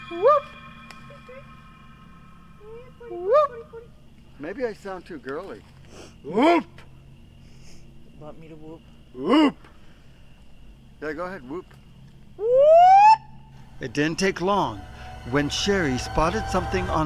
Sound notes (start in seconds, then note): 0.2 whoops; 12.4 whoops